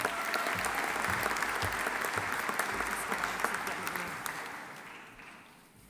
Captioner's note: audience cheering; audience applauding